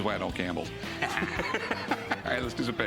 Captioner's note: laughs